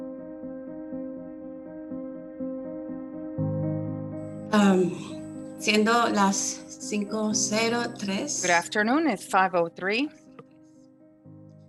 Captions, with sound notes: (speaking in a foreign language) - Good afternoon. It's 5:03